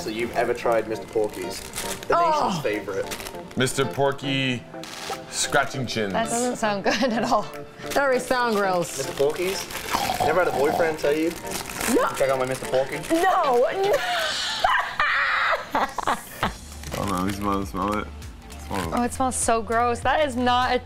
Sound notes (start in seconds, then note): 9.9 oinking; 13.3 laughing